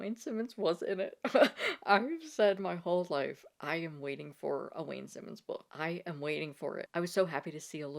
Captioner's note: laughs